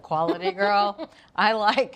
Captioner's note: Julia laughs